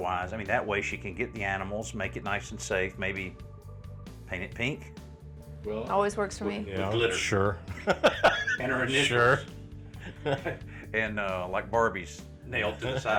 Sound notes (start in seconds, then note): 7.7 chuckles; 12.6 both laugh